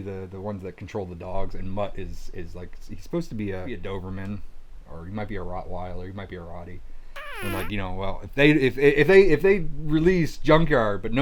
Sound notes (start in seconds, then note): 7.1 blows raspberry